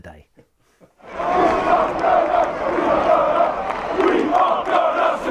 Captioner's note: fans chanting